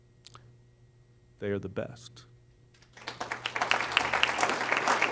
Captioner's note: applause